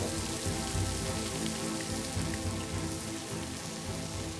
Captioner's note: crackling